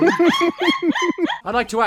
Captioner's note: laughter